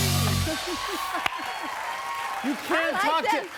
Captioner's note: cheers and applause